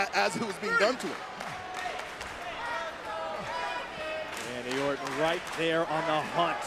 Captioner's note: applause